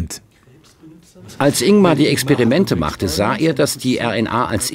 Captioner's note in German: englisch